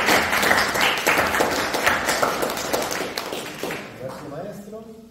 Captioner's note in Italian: Applauso